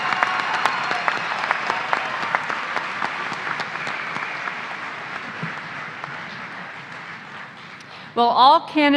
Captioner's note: applause